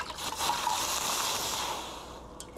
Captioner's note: Ranking hissing